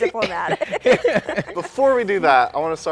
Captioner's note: laughter